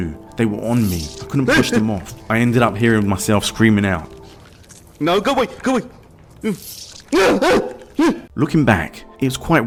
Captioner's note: ‘no go way’ Terrified scream